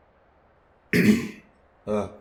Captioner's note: clears throat